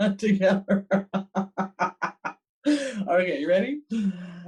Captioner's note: laughs